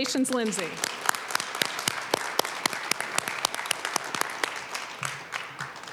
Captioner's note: applause